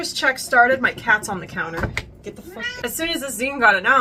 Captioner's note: meow!!!!